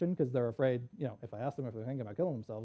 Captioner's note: none